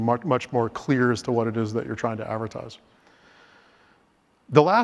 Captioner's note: inhales